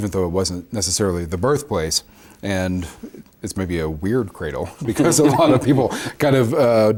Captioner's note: both laugh